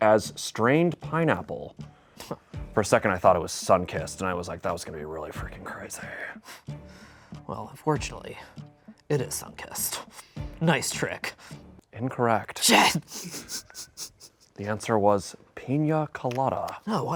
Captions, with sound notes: as "strained pineapple"? For a second, I thought it was Sunkist, and I was like, that was gonna be really freakin' crazy. - Well unfortunately, it is Sunkist. Nice trick. - Incorrect. - Shit. (laughs) - The answer was pina colada.